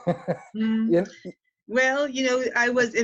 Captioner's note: laughing